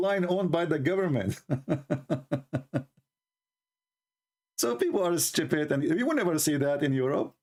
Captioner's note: Ketawa